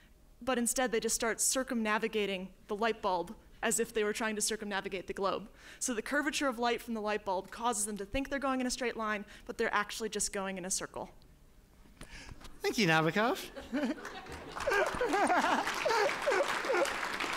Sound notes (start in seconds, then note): 13.4 laughter; 13.9 applause